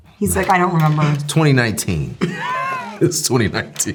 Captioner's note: laughing